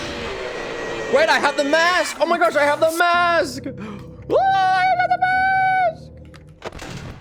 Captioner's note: screaming